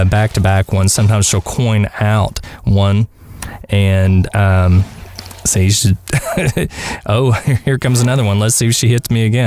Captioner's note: haha